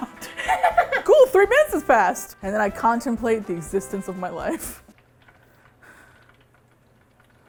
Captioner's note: both laugh; pensively